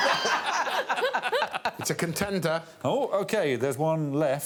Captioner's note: audience laughing